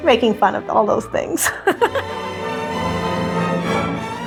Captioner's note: laughs